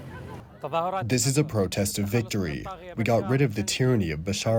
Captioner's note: through translator